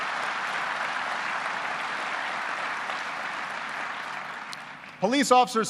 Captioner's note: applause